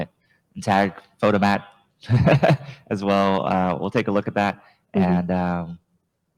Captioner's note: chuckles